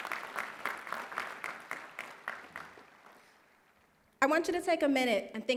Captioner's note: applause